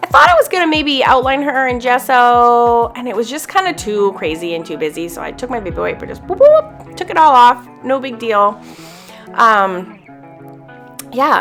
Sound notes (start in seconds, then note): 6.3 playfully cheers; 8.7 lighthearted music